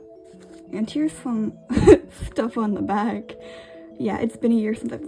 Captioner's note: laughs